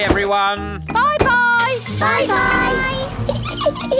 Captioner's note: engine starts; peppa giggling